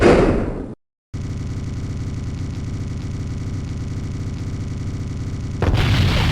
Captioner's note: a badly looped landing noise; explosion